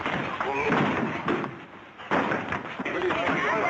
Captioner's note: grunting